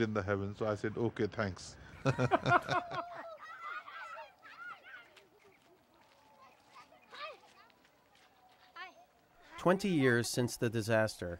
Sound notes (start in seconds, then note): 2.0 laughter; 2.7 kids chattering